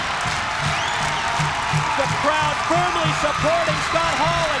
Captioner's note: crowd cheering